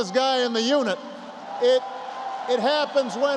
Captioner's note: applause